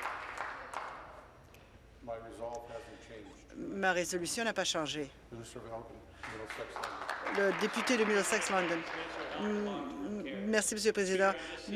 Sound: applause

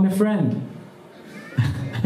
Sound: laughs

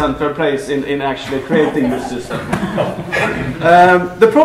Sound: laughter

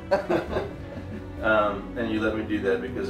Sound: giggling

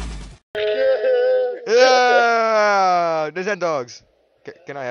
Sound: fake enthusiasm

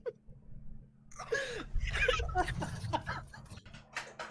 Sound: laughter

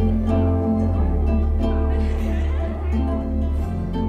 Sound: girls laugh

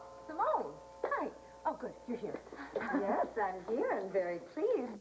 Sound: ring

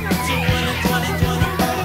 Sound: children screaming

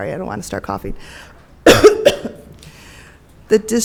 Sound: coughs

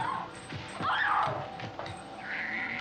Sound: screaming

